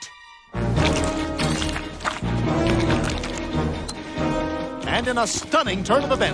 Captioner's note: dramatic music; food sloshing